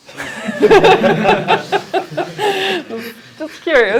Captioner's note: laughter